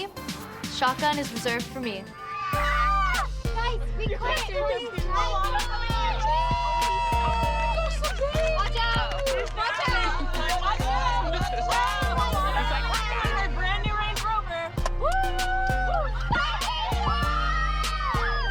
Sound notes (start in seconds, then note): 2.7 cheering and shouting; 5.6 girls clamoring; 10.0 moms clamoring; 15.0 all whooping, clamoring